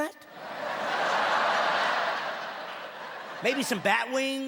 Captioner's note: laughing